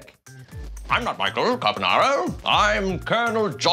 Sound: British accent

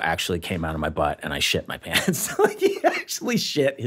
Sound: laughing

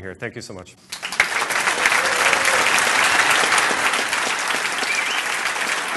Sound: applause

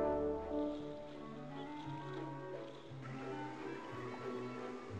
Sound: splashing

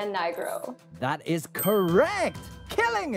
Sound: bell dings

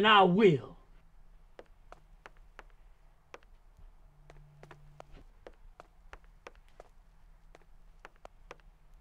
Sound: tapping

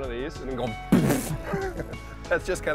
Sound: blows raspberry

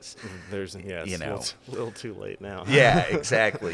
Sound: chuckling

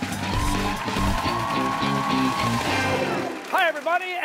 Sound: cheers and applause

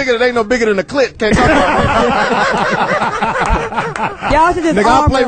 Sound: all laugh

